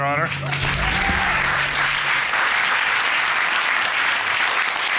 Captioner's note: cheers and applause